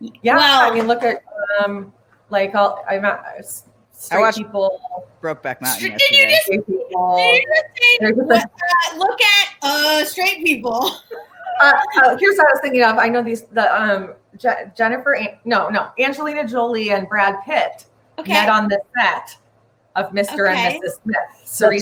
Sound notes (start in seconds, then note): 3.0 stammers; 10.7 laughs